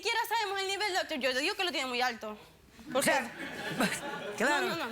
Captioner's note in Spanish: risas